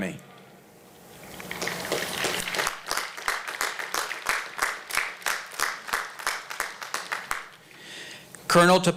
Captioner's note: applause